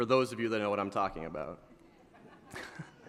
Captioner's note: laughter